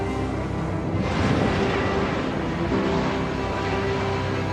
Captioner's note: portal whooshes